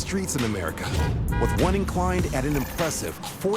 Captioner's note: car honking